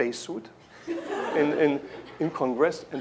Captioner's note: laughter